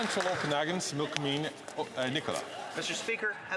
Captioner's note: some Applause